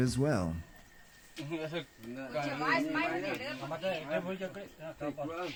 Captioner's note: villagers speaking Yanomami